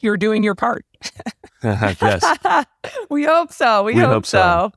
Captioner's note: laugh